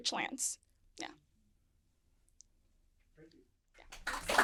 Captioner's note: applause